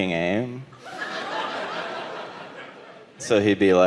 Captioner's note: audience laughing